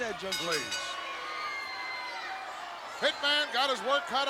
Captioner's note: bell rings